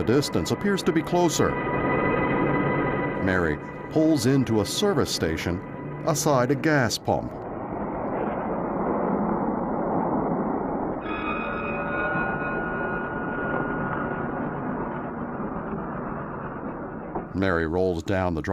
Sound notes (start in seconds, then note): 11.1 bell chimes